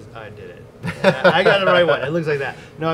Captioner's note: laughs